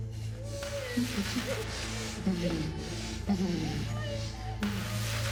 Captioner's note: victims groaning